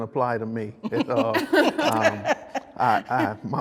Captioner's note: girl laughs